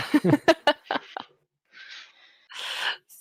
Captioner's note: laughter